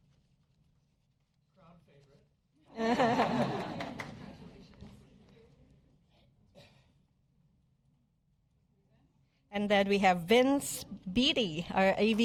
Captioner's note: applause